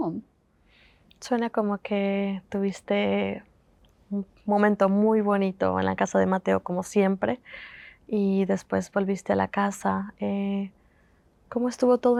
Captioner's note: Spanish